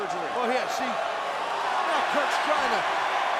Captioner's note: audience cheering and clapping